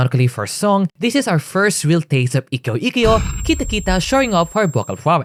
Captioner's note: flashbang